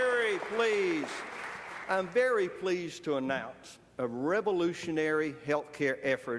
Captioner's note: applause